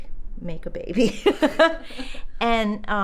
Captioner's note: laughs